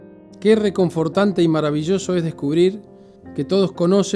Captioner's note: in Spanish